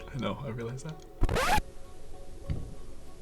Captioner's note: audio scratches